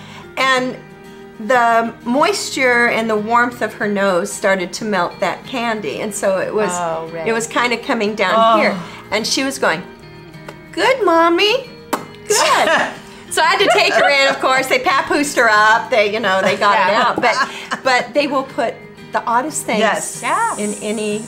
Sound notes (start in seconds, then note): 11.6 lip smacking sound; 13.5 both laughing